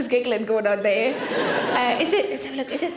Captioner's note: audience laughing